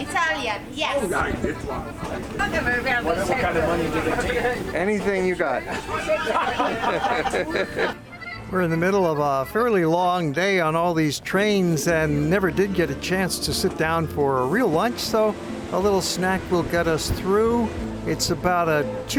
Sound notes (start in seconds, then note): 4.1 chatter; 5.6 laughter